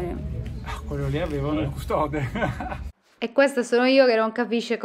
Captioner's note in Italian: Risata